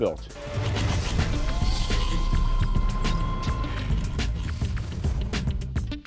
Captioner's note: funky music; high-tech mechanical sounds